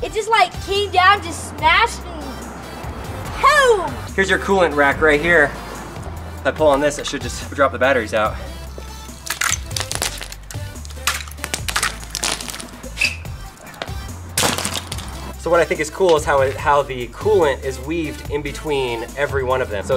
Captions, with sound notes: It just came down, just smashed, and poom! - Here's your coolant rack right here. If I pull on this it should just drop the batteries out. (cracking) What I think is cool is how the coolant is weaved in between every one of them.